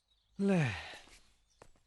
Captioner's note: sighs